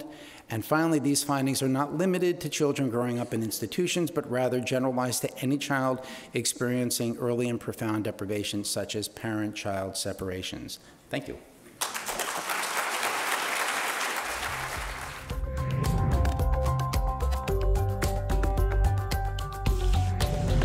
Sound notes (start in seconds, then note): 11.8 audience applauding; 15.9 upbeat music